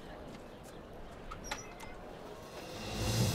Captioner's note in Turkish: Kapı açılma sesi